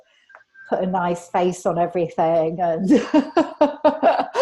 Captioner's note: laughs